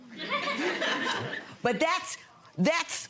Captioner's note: audience laughing